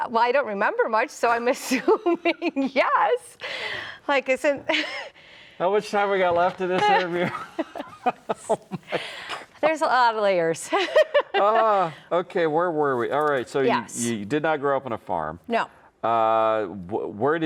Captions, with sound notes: - Well, I don't remember much, so I'm assuming yes. Like I said... (chuckles) - How much time we got left in this interview? (laughs) Oh my God. - There's a lot of layers. (laughs) - Okay, where were we? All right, so you did not grow up on a farm. - No.